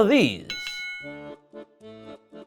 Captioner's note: bell dings; accordion music